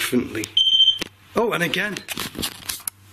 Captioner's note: machine beeping